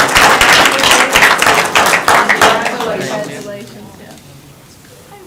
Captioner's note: crowd talking indistinctly